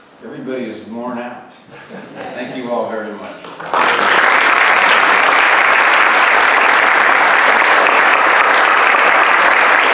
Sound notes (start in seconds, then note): 3.4 audience applauds